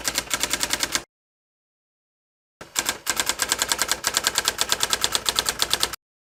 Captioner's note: sound of teletype